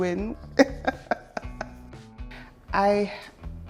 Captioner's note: laughs